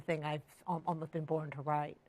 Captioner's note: none